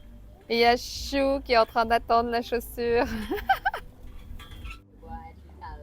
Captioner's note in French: rires